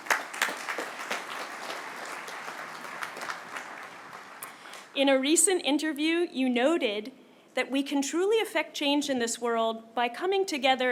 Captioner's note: applause